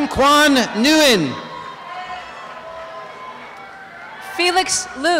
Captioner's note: applause and cheering